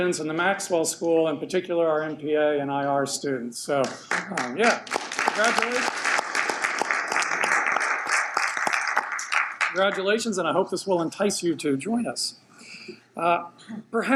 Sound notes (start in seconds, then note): 6.0 audience applauds